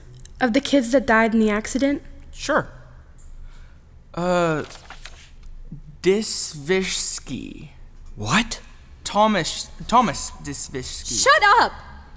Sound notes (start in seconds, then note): 4.6 more paper rustling